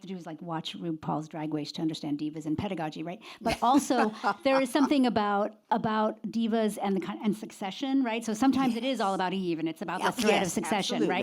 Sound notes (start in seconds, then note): 3.4 laughs